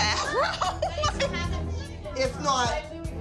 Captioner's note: laughs